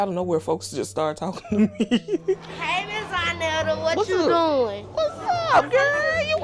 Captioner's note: laughs